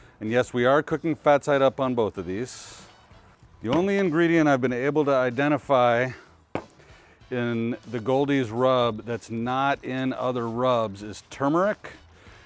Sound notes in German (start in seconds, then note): none